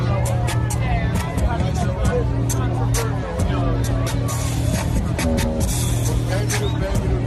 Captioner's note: murmuring